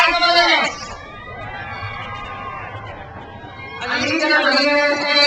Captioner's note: crowd cheers